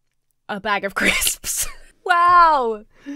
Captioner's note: laughs